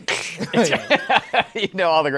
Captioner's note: laughs